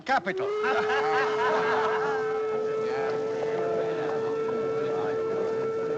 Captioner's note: horn blares; audience laughing